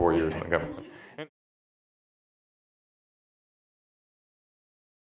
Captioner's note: laughing